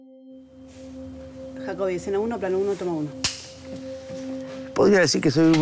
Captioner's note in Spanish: Voz de mujer